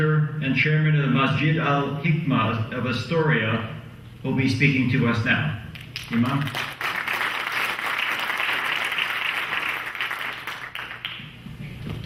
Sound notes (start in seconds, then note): 5.8 clapping